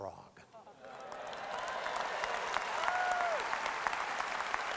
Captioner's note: audience applause